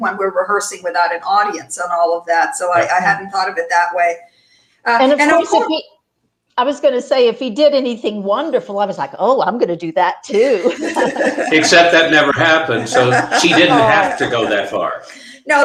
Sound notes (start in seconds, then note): 10.4 chuckling